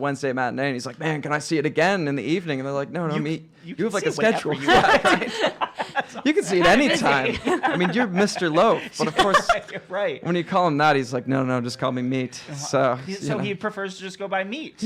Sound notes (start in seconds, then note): 3.9 laughing